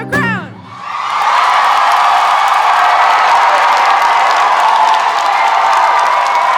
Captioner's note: audience cheering; audience applauding